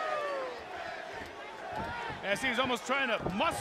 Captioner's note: crowd cheering